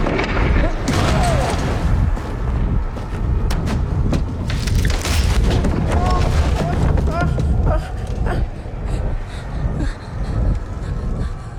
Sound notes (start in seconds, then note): 6.6 grunts